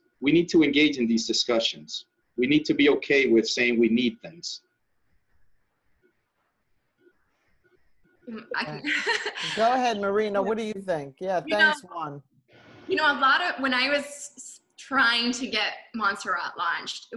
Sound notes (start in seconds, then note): 8.3 laughs